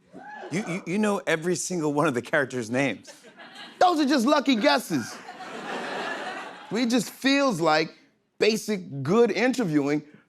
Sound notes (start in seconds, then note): 4.4 laughter